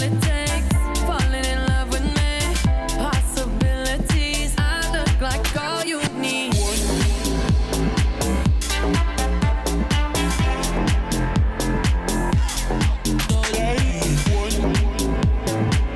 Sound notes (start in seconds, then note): none